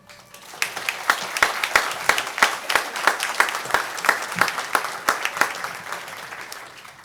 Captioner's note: applause